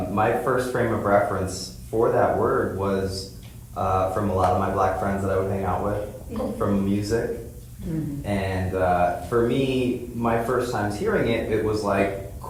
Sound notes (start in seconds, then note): 7.8 others vocalize agreement